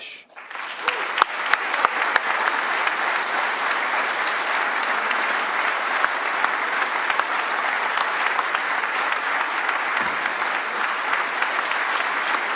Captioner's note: applause